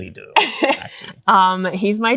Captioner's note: laughter